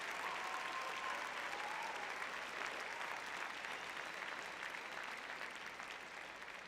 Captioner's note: cheering; applause